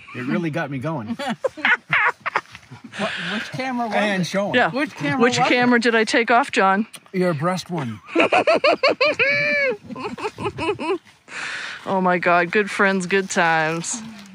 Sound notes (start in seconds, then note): 1.1 laughs; 8.1 laughs